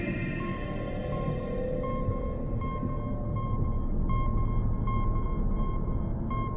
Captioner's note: dramatic music; light beeping